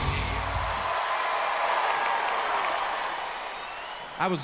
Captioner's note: crowd cheers